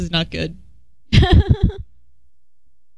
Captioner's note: laughter